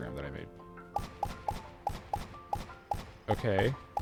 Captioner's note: gunshots